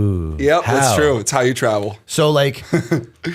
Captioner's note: chuckle